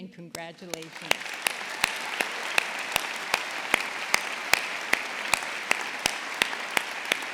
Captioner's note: audience applauding; audience cheering